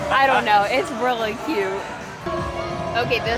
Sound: none

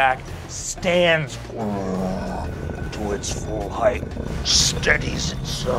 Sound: mimics growling

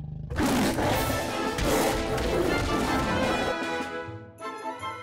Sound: tiger growling; dramatic music; light orchestral music

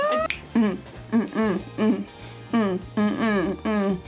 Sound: rhythmic grunting

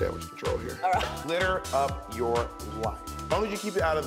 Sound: laughs

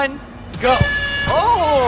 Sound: horn blares

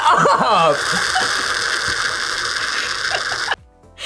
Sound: slurps

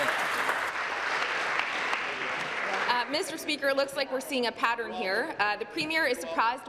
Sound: some Applause

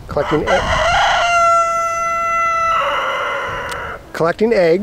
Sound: rooster crowing

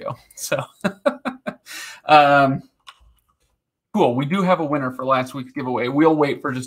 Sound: laughing

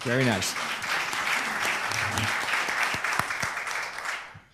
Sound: applause

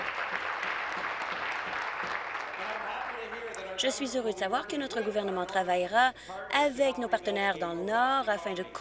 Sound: applause

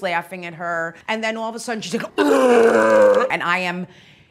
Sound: retches

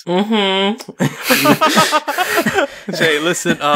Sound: laugh

